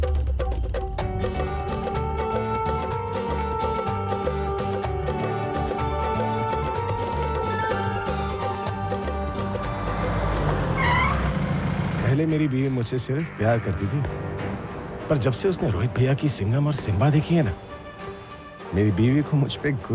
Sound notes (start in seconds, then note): 12.2 car halting